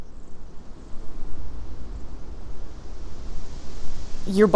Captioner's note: wind blowing